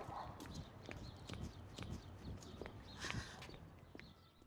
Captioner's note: birds chirping